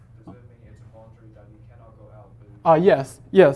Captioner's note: faintly speaking